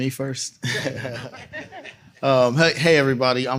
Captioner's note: laughter